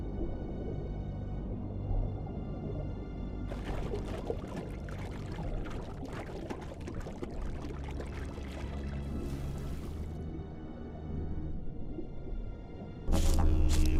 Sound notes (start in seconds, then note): 3.4 water splashing; 11.1 sorrowful music